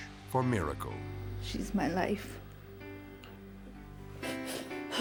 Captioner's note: sobbing